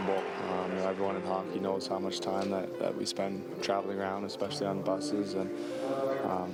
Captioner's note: applause